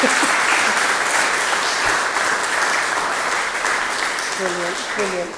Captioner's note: applause